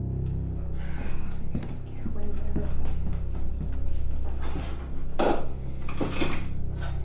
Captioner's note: sighs